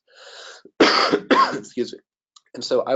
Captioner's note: coughs